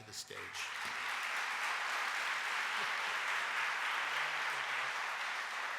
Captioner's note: audience applauding